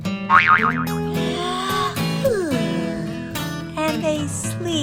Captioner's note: yawns